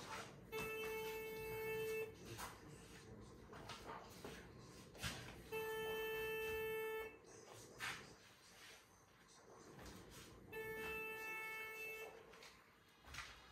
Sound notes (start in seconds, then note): 0.5 phone calling